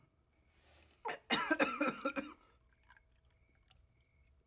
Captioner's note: Cornelius coughs